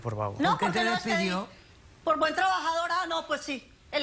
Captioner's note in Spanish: Hablan al unísono